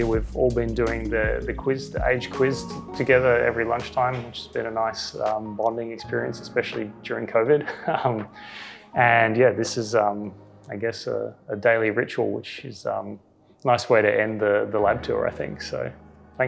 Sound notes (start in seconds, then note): 7.6 laughs